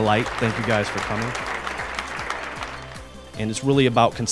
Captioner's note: crowd applauds